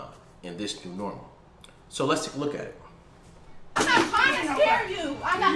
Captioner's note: video playing. Commotion